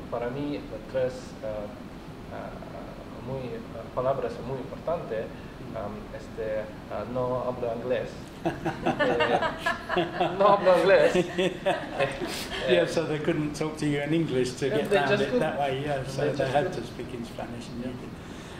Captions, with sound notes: para mi tres palabras muy importantes "no hablo ingles" (laughs) "no hablo ingles" - so, they couldn't talk to you in English to get round that way so they had to speak in Spanish and you did